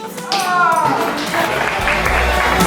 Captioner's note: cheers and clapping